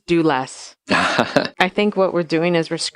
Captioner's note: laughing